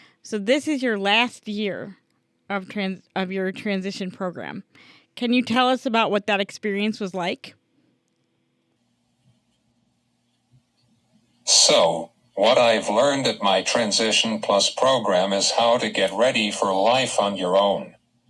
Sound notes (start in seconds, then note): 11.6 voiceover